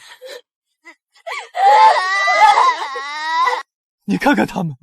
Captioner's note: crying